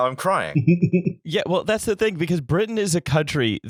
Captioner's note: laughter